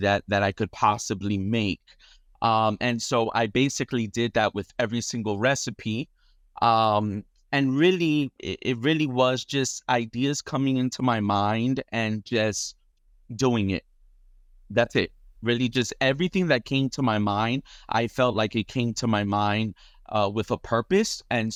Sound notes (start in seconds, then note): none